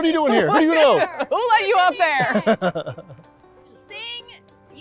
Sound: laughs

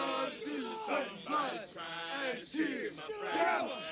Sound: pledges Continue Chanting

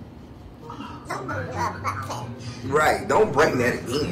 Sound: baby babbles

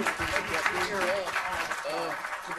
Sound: applauding

